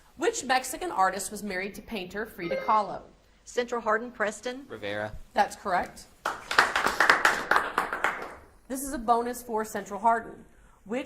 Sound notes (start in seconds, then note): 6.2 audience applauds